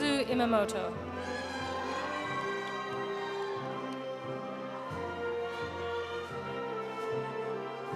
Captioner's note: audience cheering; audience applauding